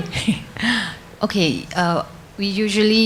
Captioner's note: audience laughs